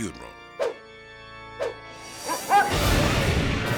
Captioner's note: dog barking; fire whooshing